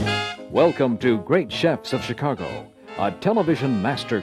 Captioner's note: voiceover